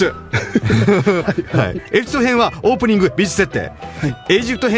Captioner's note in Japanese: 笑い